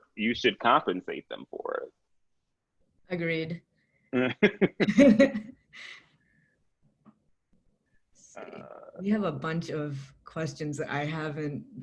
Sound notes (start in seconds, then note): 4.2 laughs